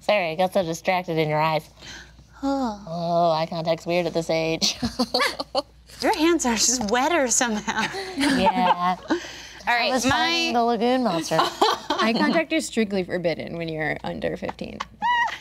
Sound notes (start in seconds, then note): 4.7 group laughing; 15.3 laughing